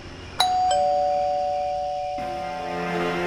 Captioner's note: crickets, scary music; crickets, doorbell; crickets, scary music